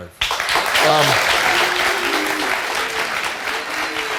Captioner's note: crowd clapping